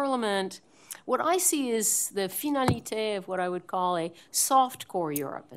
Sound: french

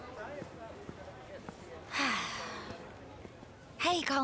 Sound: sighs

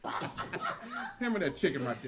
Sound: family members chuckle

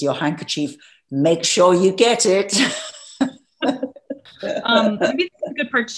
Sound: laughs

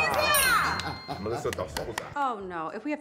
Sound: Terrence laughs

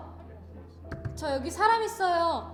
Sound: knocking on the door

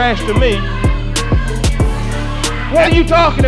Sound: rednecks screaming

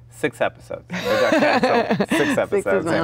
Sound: Gal laughs

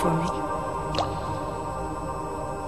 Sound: water drops

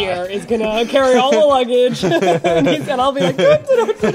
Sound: laughing

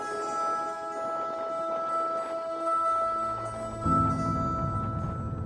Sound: footsteps crunching in snow

